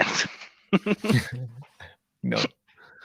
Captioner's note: laughing